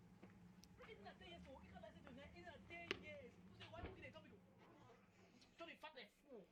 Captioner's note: neigbours talking